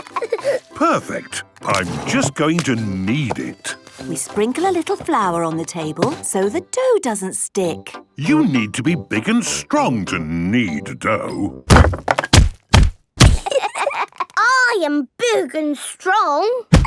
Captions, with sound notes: - Perfect! I'm just going to knead it. - We sprinkle a little flour on the table so the dough doesn't stick. - You need to be big and strong to knead dough! (banging) - I am big and strong!